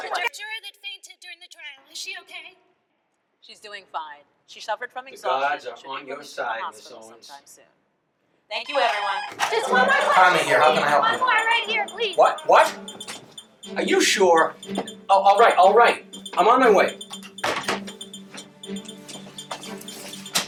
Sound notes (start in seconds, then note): 8.6 telephone ringing